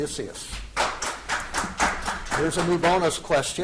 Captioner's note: audience applauding